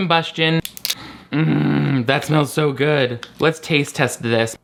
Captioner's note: inhales